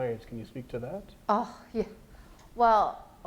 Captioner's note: scoffing